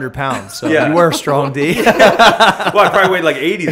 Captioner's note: laughter